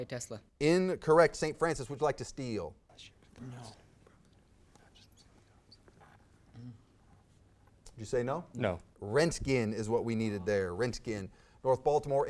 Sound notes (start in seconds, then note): 3.5 whispered conferring